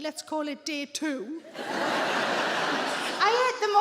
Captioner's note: audience laughs